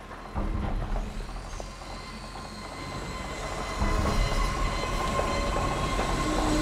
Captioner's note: heavy vehicles rumbling